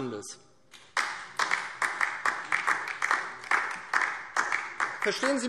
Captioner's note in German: Beifall DIE LINKE